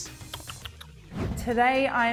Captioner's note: smacks lips